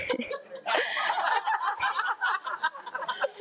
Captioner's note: board laughs; laughs